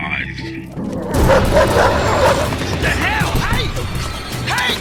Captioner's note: dramatic music; Randolph banging